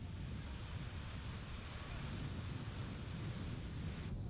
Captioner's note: faint whirring